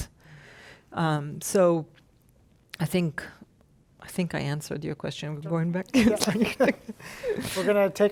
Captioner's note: laughs